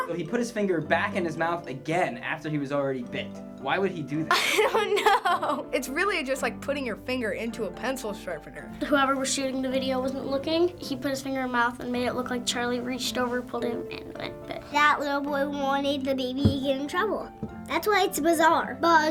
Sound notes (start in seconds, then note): 4.3 laughing